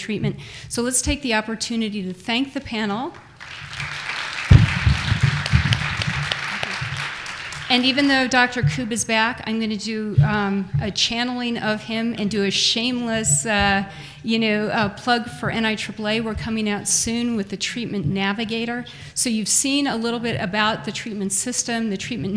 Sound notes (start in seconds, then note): 5.1 applause